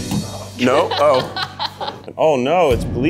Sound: laughing

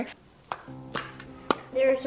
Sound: popping

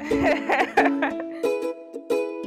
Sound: laughs

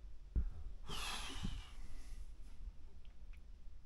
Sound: sigh

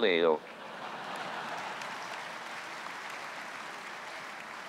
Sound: audience applauds

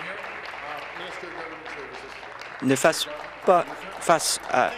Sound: applause

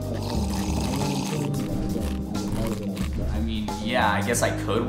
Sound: slurping continues

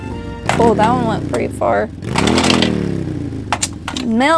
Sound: engine revving

